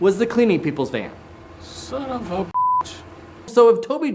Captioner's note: beep